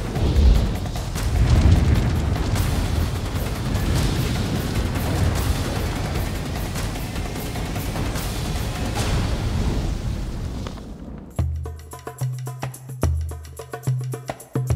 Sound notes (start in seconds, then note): 0.0 flames whooshing; 0.0 intense music; 0.9 flames whooshing; 0.9 intense music; 10.7 percussive music